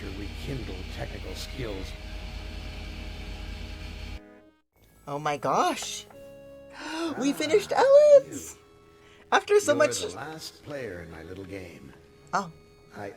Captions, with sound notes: Oh my gosh! [Gasps] We finished Ellen's! After so much— oh!